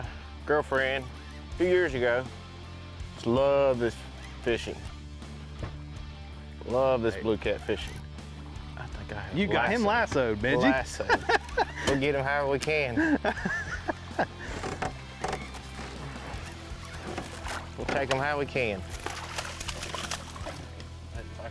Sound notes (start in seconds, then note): 10.5 laughs